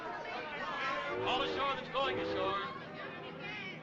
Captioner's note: ship Horn Blowing In Distance